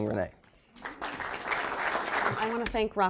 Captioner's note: applause